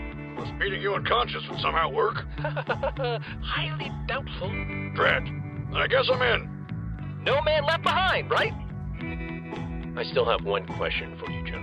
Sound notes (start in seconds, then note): 2.4 nervous chuckle